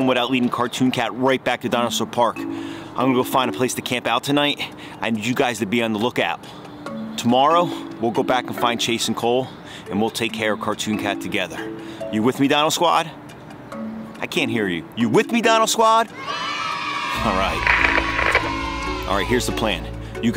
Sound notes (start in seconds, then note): 16.1 crowd; 17.2 video crackles